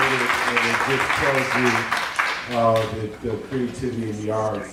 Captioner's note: applause